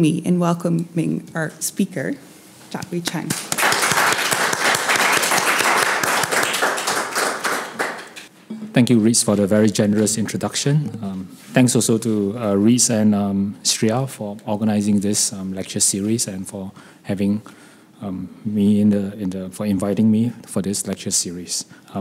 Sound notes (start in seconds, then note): 3.1 applauds